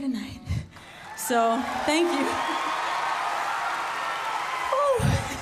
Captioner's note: cheers and applause